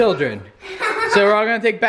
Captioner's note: laughter